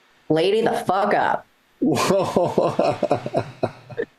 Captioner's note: laughing